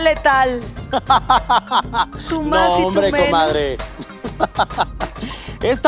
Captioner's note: evil stepmother laugh